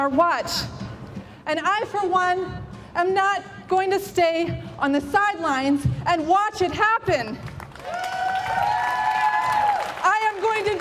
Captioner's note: applause!